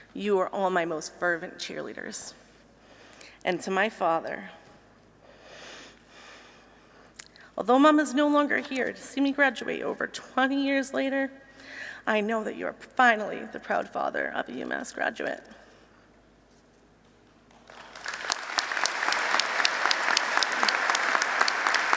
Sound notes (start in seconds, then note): 15.6 applause